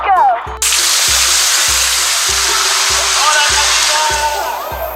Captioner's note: water spraying